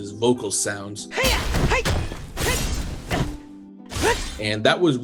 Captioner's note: zelda sounds